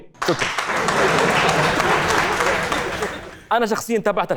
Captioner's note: clapping and Laughing